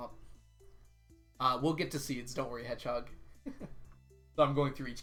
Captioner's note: chuckles